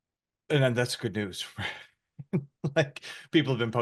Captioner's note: laughs